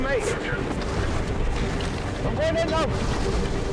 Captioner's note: water whooshing